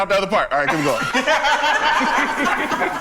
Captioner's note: group laughs